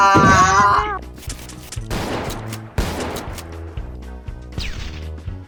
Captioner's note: gun noises